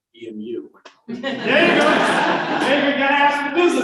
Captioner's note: laughter